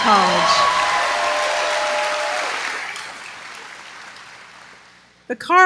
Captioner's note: applause